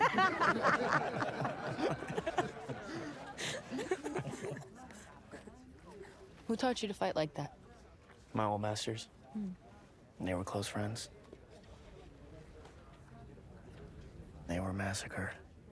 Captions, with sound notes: [all laughing] [fighters chattering] [in English] Who taught you to fight like that? -My old masters. -Hmm. And they were close friends. They were massacred.